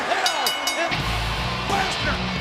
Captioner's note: bell rings